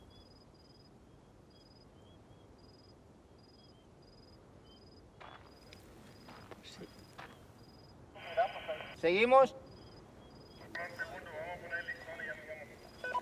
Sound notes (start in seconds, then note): 8.6 crew member speaks Spanish